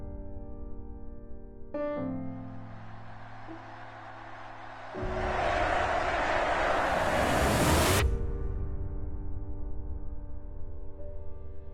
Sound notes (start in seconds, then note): 2.6 crowd cheering; 9.4 gentle piano music